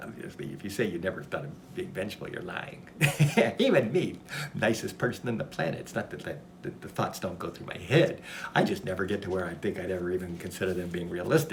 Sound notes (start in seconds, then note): 3.0 laughs